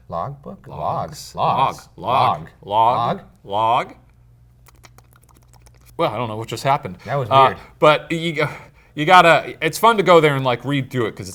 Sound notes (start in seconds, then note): 4.5 smacks lips